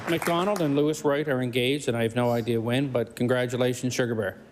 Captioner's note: cheering/Applause; applause